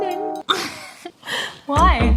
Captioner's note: chuckles